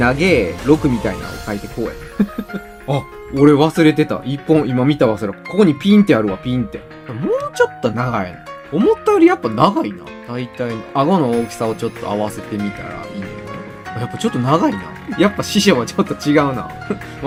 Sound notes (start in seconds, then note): 2.1 laughter